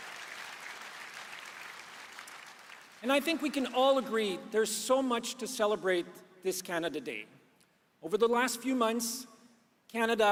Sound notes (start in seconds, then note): 3.1 applause